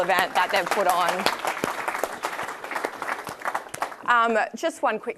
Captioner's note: audience applauding